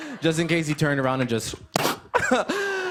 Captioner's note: imitates blow dart, chuckles